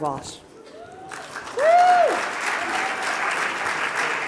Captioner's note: audience applauding